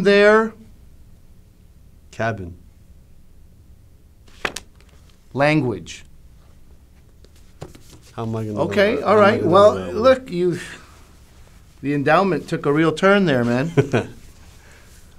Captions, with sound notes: Cabin. Language. How am I going to know that? Okay, alright, well look, you've... The endowment took a real turn there man. [laughs]